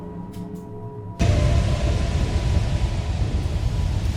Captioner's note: dramatic music; wind gushing